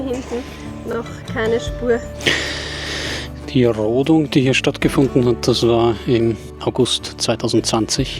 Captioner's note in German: schnauben; japst